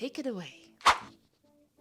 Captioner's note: woosh